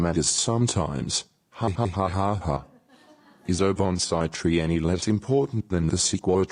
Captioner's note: laughter